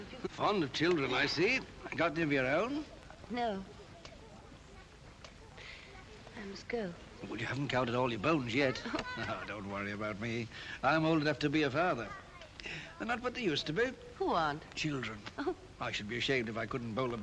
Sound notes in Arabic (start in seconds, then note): 8.7 يضحك